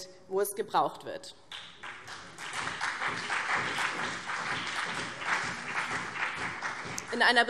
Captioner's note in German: Beifall BÜNDNIS 90/DIE GRÜNEN und CDU